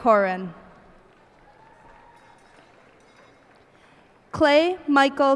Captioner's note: cheers and applause